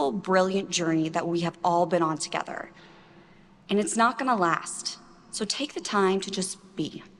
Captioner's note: none